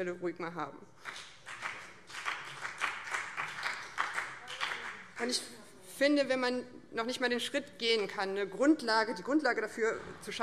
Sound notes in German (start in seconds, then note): 1.0 Beifall BÜNDNIS 90/DIE GRÜNEN